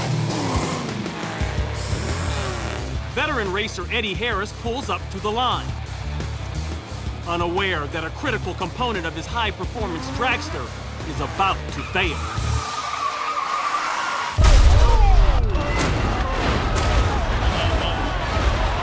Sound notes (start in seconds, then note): 12.0 tires screeching